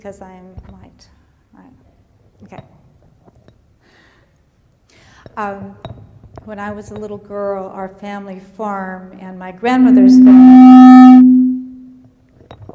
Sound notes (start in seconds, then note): 9.6 microphone Feedback